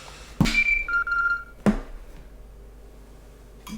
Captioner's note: watch beeping